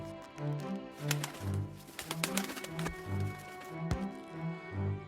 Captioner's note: wings beating